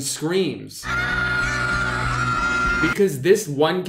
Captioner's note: children screaming